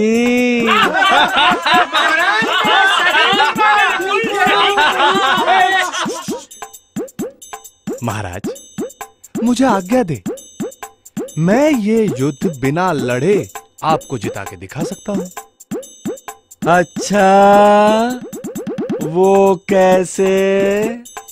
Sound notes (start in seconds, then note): 0.2 laughs